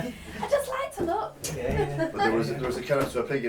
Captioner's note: laughs